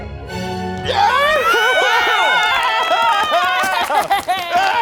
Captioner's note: everyone cheering